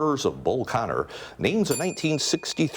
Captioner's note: bell ringing